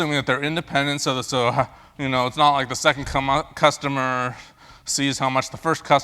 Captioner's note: laugh